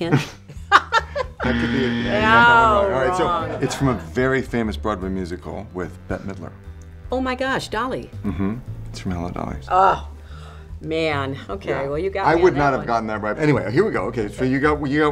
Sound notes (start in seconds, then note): 0.0 laughter; 1.4 buzzer